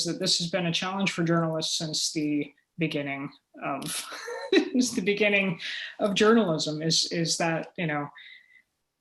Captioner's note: chuckle